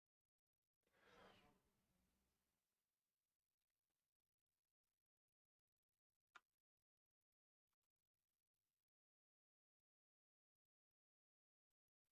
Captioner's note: silence